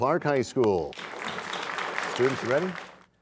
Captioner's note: cheers and applause